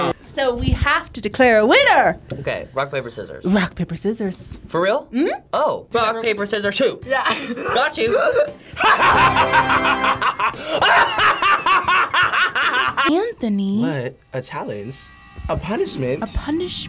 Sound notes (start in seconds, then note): 8.7 laughing maniacally